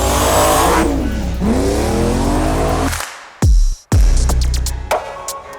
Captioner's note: car engine revving; upbeat music